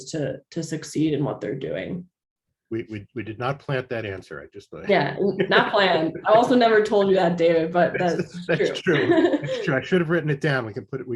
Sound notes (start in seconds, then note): 5.2 chuckles